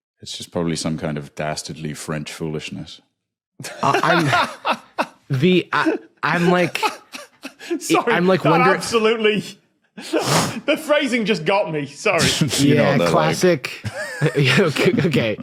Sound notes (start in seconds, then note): 3.6 laughs breathily